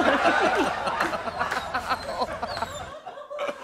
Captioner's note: laughter; whining; laughter